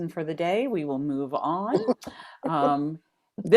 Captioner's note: laughter